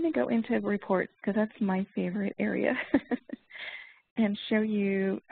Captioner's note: laughs